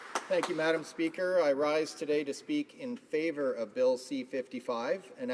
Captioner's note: some Applause